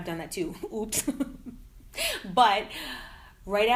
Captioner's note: laughing